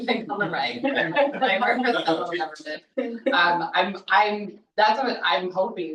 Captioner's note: people chattering distantly